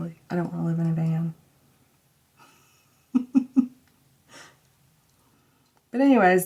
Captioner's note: laughing